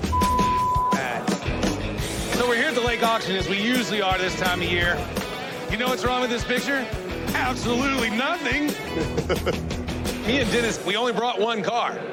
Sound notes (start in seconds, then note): 8.4 chuckles